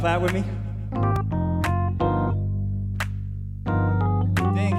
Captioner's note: all clapping